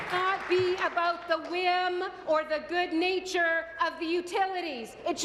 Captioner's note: applause